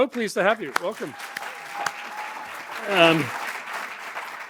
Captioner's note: applause